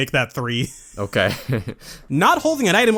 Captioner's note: laughs